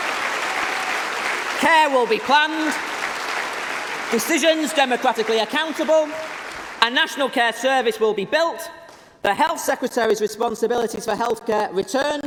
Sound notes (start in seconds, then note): 4.9 applause